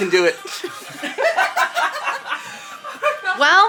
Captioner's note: people laughing